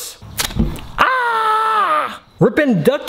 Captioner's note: yells